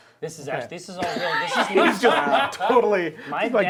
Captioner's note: all chattering